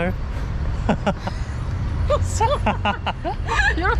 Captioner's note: laughing